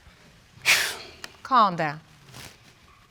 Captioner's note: sighs